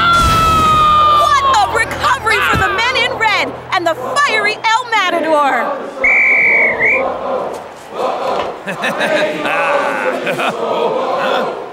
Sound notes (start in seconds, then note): 6.0 whistle blows; 7.7 crowd continues chant